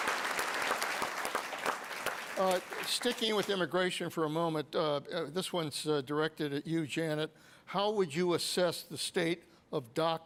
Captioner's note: applause